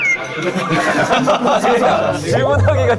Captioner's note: just awkward laughter out of embarrassment